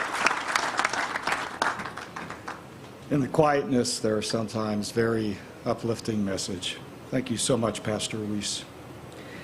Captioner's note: applause